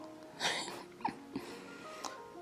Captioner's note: laughing